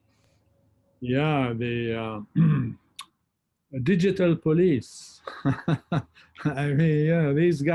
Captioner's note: laughs